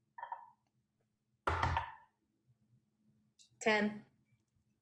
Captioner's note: dice rolls